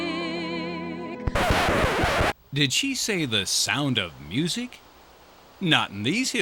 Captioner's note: SFX record scratch